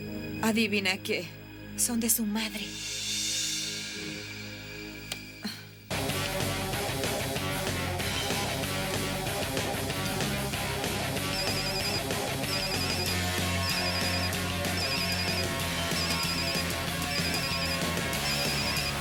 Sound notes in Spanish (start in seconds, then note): 5.9 música heavy metal; 11.0 telefone tocando